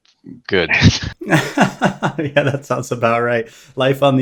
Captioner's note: laughs